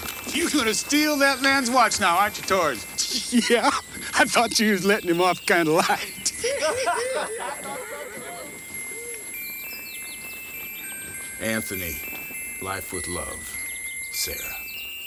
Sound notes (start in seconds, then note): 3.0 chuckles; 6.5 gang members laugh; 8.3 pocket watch chimes melodically